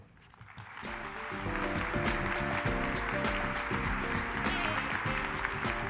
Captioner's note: applause